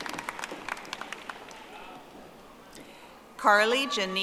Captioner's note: audience applauding